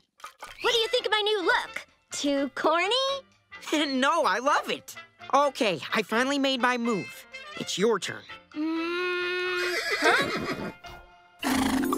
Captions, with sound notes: What do you think of my new look, too corny? No, I love it. Okay, I finally made my move. It's your turn. Hmm. Huh? [neighing]